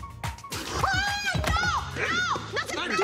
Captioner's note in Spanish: Gritos y exclamaciones